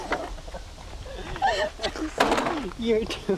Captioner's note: laughter